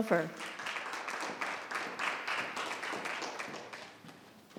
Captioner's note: audience clap